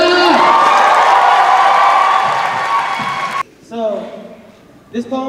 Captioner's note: applause